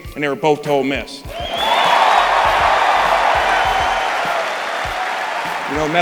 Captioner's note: crowd cheering